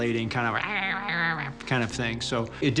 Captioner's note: chirping